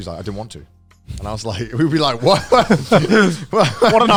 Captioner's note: laughing